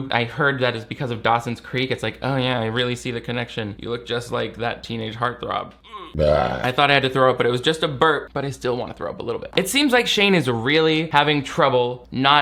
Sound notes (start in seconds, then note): 5.8 belches